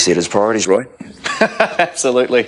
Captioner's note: laughing